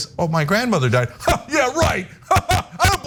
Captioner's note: laugh